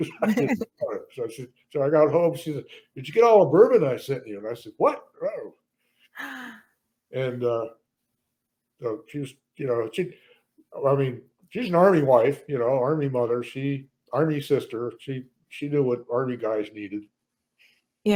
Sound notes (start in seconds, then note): 6.2 gasps